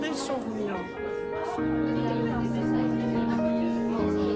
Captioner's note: lively chatter continues